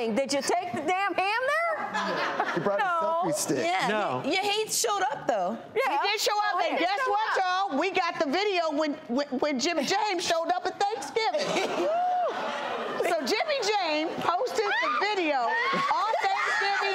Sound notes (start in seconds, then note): 1.8 audience laughs; 11.3 everyone laughs